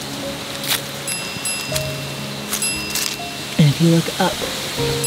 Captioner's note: gentle piano music; buzzer dinging